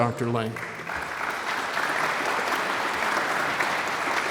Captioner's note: audience applauds